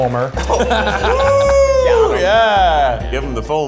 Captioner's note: group cheers